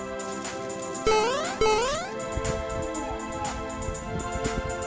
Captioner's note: Mario jumping